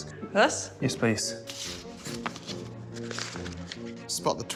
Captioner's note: none